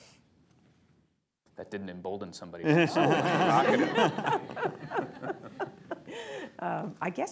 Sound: laughter

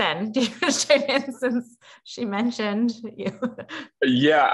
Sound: laugh

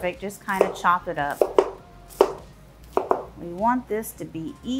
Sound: knife thudding

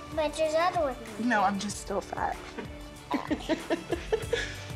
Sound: laughs

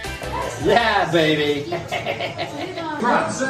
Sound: upbeat music; vacationer laughs

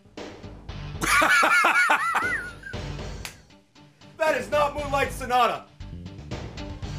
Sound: rock music; laughs

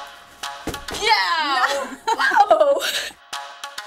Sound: laughing; tempo slows down

